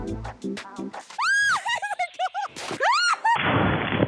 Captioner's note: laughs